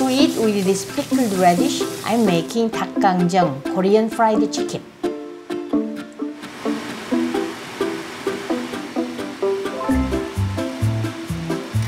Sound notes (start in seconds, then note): 6.2 sizzling noise; 8.3 cheerful music